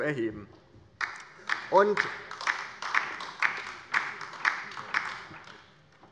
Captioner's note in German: Beifall bei der LINKEN